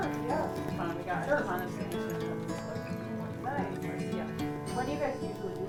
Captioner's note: trainers chattering; bright music